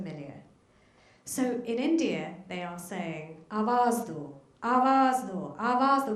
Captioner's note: speaks foreign language